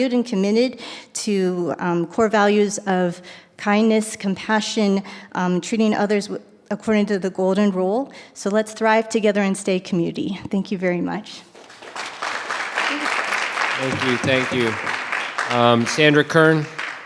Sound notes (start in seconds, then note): 11.5 audience applause